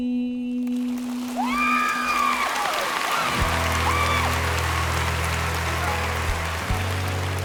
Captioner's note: cheers and applause